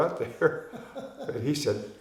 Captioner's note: laughing